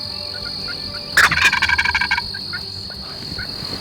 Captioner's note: turkey gobbling